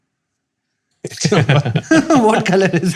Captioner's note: chuckles